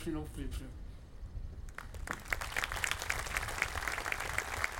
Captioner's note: audience applauding